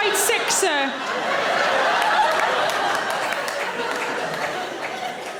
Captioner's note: audience laughing